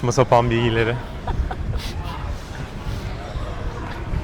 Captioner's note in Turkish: kahkaha